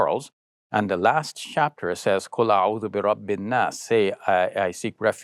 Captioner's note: speaks Arabic